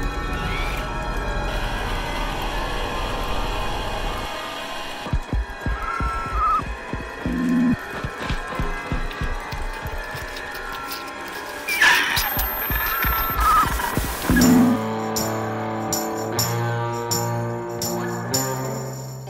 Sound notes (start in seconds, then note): 0.2 remote control car wheels rapidly spinning; 4.3 aliens talking; 5.0 creepy crawling noises; 11.6 alien screech